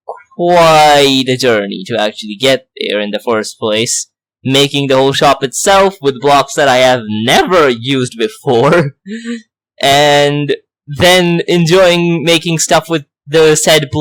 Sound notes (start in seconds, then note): 8.4 laughs